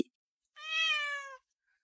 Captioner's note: meow